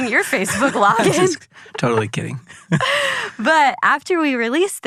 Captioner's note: both laughing